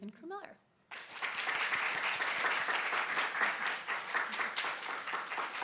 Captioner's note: audience clapping